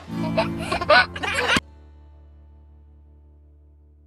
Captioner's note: baby giggling